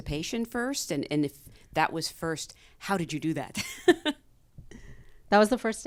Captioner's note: chuckles